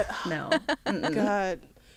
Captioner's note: laughter